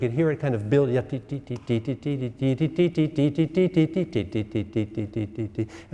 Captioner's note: instructor vocalizing